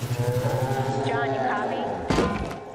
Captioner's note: Harcourt Through Radio; clank